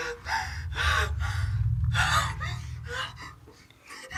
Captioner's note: claustrophobic panting